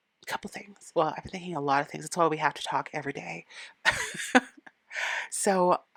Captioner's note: laughing